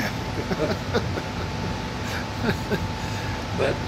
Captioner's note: laughing